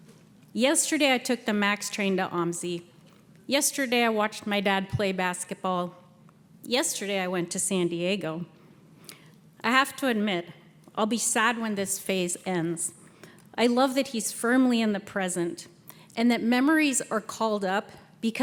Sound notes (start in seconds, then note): none